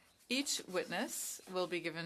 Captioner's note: speaking French